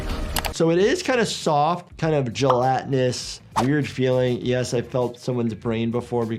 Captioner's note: none